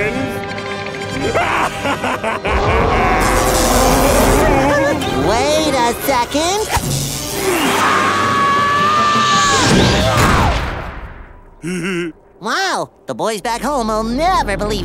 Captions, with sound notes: [laughing] [roaring] Wait a second! [screaming] [laughing] Wow, the boys back home will never believe this.